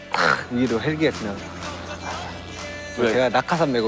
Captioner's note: helicopter flies over the stadium